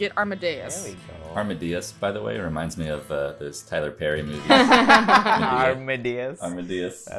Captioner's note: laughter